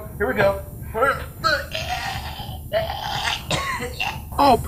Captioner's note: gagging